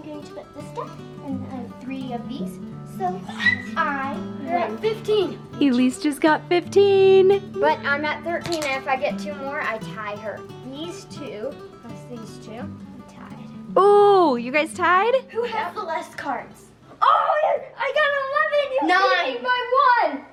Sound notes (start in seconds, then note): 3.2 squeals